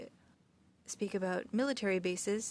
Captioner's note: speaking French